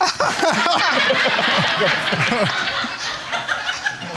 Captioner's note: laughter